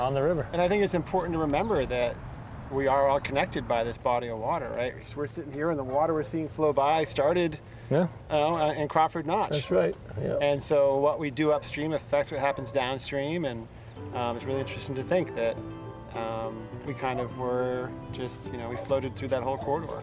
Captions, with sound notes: And I think it's important to remember that we are all connected by this body of water, right? We're sitting here, and the water we're seeing flow by started in Crawford Notch. That's Right. And so what we do upstream affects what happens downstream. [dog barking] And it's really interesting to think that we kind of were just-- we floated through that whole corridor.